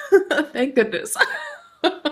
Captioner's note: chuckles